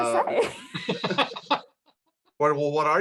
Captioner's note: laughs